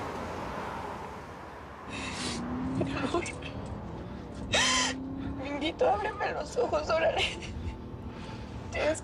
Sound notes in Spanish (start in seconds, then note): 1.9 Sollozos